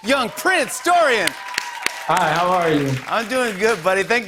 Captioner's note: cheers and applause